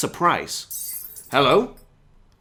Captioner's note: glass smashes in the next room